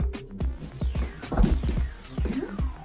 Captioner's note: exciting synth music; impact; exciting synth music